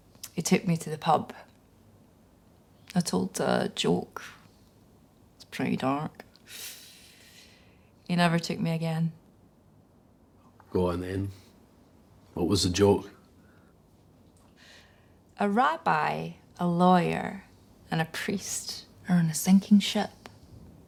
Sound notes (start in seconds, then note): none